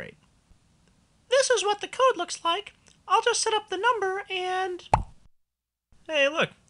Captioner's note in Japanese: ポンという音